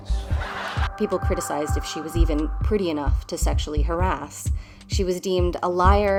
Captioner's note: hoots; uproarious laughter